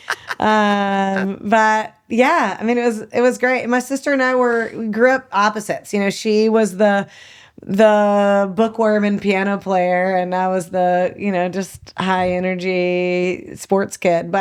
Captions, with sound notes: (laughing) But yeah, I mean, it was great. My sister and I were, grew up opposites, you know, she was the bookworm and piano player and I was the, you know, just high energy sports kid,